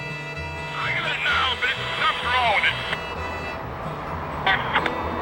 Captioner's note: western music; voiceover